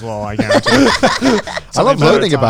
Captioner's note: everyone laughing